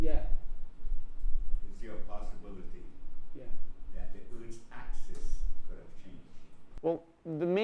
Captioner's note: voiceover